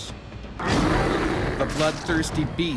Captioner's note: bear growling; voiceover